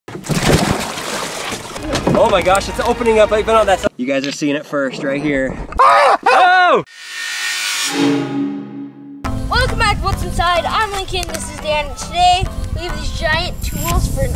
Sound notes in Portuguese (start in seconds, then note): 0.1 splash; 5.8 Gritos; 6.9 Música metálica